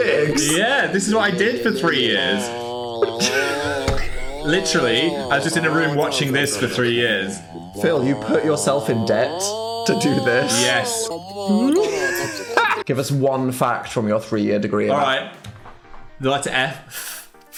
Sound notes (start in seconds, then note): 2.3 computer vocalizing; 11.5 Dan laughs